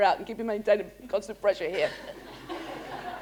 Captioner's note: laughter